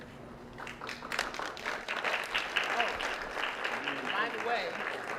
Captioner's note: applause